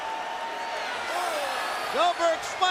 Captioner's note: crowd cheering